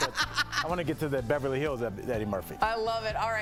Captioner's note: laughter